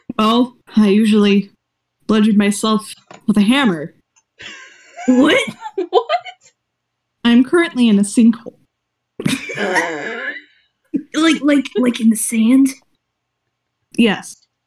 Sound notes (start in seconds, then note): 4.4 slight wheeze laugh; 5.9 through laughter; 9.3 wheeze laugh